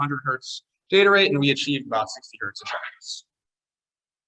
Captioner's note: audio distortion